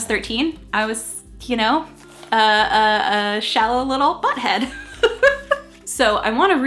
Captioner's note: laughing